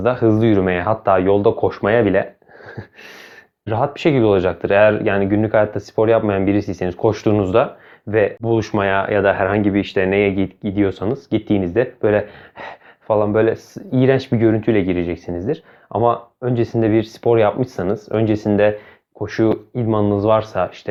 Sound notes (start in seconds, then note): 12.2 deep Breathing